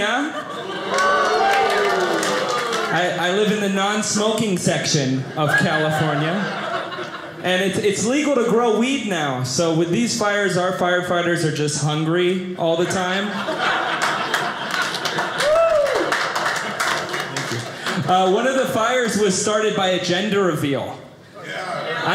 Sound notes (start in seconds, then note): 0.1 audience laughing; 13.2 audience laughing